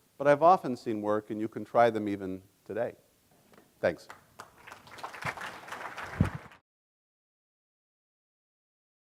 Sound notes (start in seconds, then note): 4.3 audience applauding